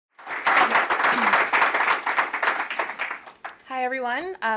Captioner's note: applause